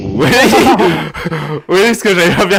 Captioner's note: laugh